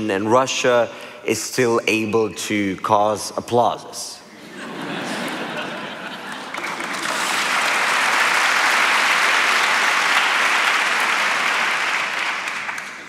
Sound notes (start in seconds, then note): 4.3 laughter; 6.1 applause